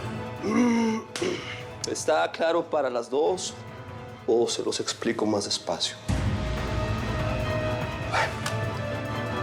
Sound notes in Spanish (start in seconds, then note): 0.4 carraspea